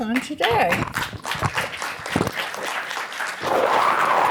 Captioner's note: applause